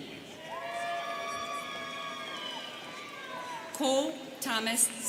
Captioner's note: students cheering